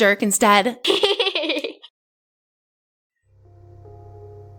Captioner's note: Esther laughing; tender music